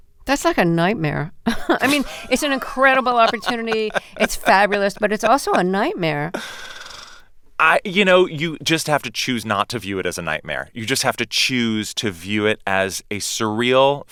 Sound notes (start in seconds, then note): 1.4 laughter